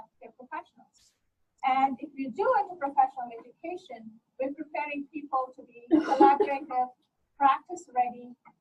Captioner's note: overlapping coughing